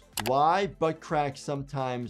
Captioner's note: keyboard keys clicking